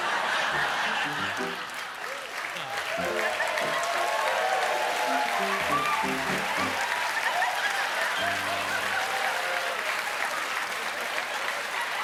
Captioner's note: laughter; piano riff